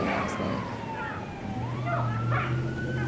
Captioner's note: loud siren; children yelling